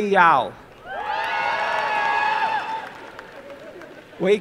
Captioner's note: applause and cheering